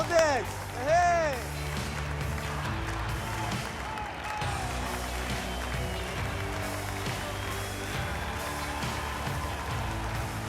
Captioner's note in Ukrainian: оплески